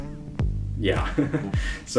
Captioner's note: lmao awkward chuckle